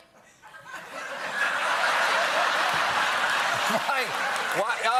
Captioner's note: laughter